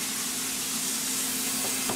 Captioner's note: hiss